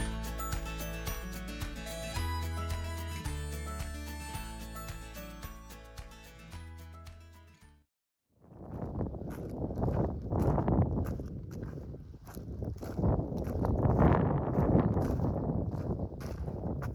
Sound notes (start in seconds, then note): 8.4 wind noise and footsteps